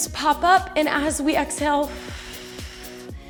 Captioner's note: exhales